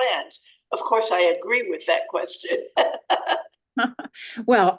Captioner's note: laughs